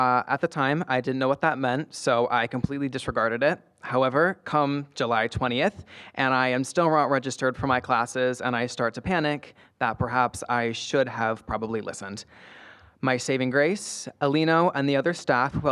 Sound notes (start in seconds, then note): none